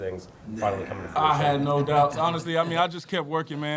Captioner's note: panel laughing